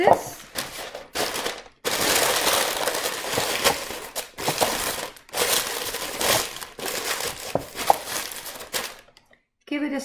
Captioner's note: parchment paper crumples